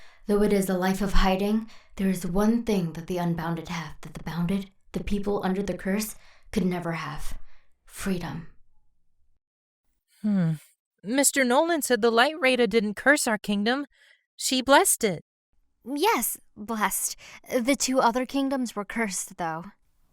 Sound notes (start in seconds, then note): none